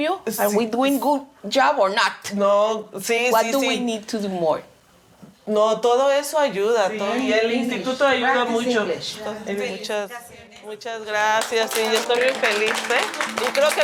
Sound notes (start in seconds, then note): 5.2 speaking in Spanish; 9.2 speaking in Spanish; 11.2 class clapping